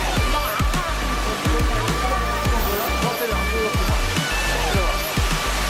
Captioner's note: muffled background chatter; water running